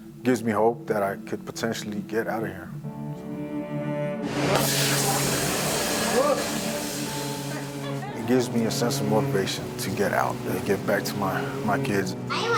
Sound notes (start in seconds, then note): 3.1 warm music; 4.2 pan sizzling; 7.8 woman laughing